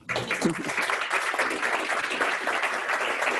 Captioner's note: applause